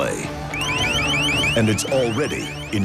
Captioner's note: siren blares